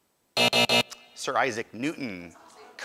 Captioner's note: buzzer